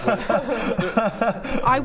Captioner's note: cries